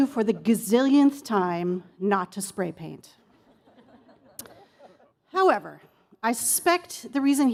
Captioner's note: laughter